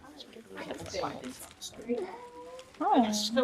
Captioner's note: people whisper